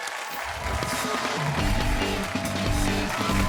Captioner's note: cheers and applause